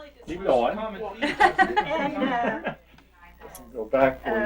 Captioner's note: laughs